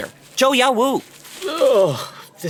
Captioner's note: sound of a wrapper being opened